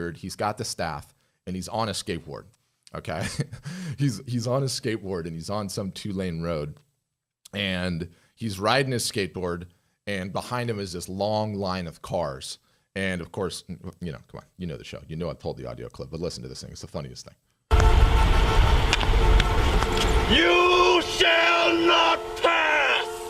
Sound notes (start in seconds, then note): 17.7 cars honking